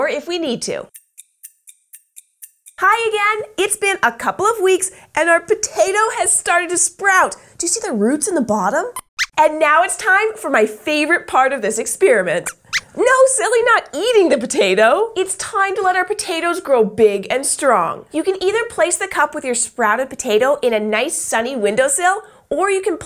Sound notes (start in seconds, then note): 12.4 squeaks squeaks